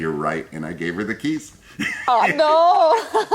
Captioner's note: laughs